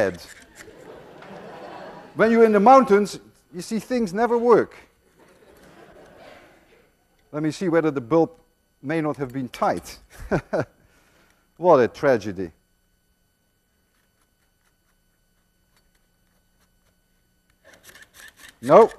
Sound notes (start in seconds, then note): 0.5 more laughter; 10.1 Lewin chuckles; 14.7 device ratcheting